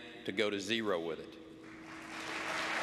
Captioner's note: applause